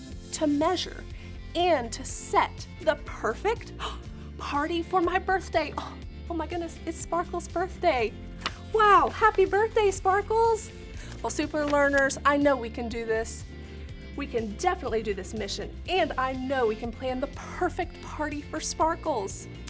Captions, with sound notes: to measure and to set the perfect [gasps] party for my birthday. Oh my goodness, it's Sparkles' birthday. Wow! Happy birthday, Sparkles! Well, super learners, I know we can do this. We can definitely do this mission, and I know we can plan the perfect party for Sparkles.